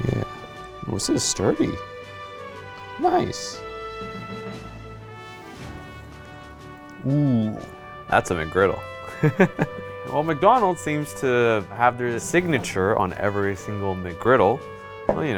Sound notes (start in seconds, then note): 9.1 laughs